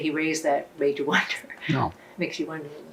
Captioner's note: laughing